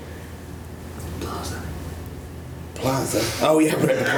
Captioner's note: whispers off camera